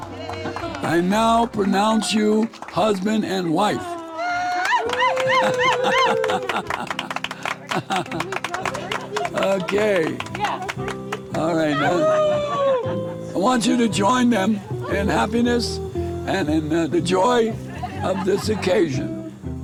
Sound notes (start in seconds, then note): 0.1 guests applauding; 4.2 guest cheering; 5.0 chuckling; 6.8 guests applauding